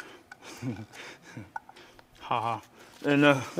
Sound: laughs

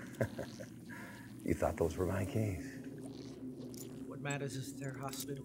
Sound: chuckles

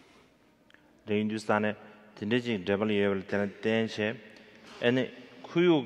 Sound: speaking in foreign language

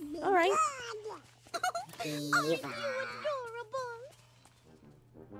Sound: Minnie Giggles

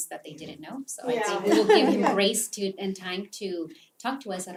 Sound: laugh

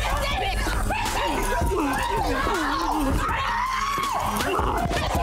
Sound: women screaming

